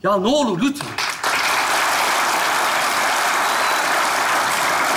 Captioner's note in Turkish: Alkış sesleri